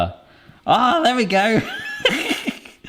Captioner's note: laughs